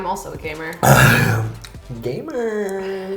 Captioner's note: nasty cough